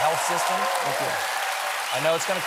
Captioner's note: applause